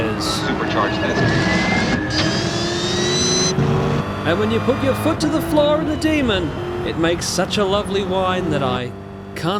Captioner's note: supercharger whine